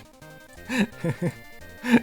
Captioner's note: gleeful laughter